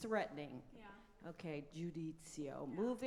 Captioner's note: speaks in foreign language